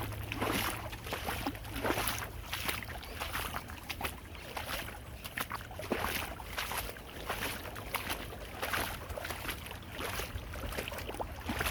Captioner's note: water flowing